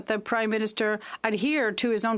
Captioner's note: speaking French